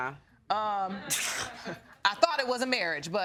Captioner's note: scoffs